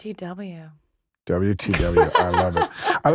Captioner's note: laughing